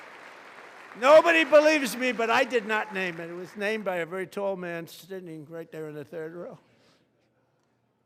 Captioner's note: applause